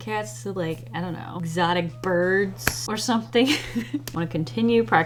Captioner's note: laughs